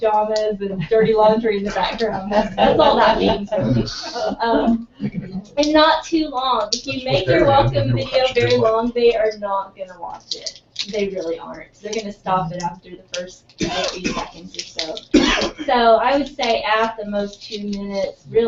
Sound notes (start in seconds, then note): 2.7 laugh; 13.6 cough